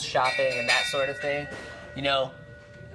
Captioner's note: loud bell ringing